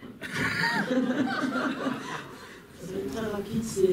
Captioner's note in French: rires